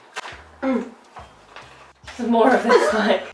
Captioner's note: grunts; laughing